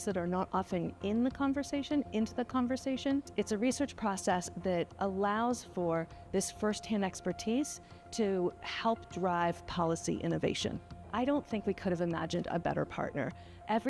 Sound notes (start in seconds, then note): none